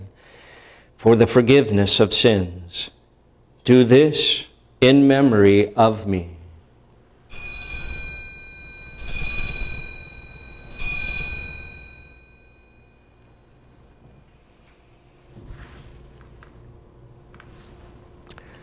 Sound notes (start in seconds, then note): 7.3 bells ringing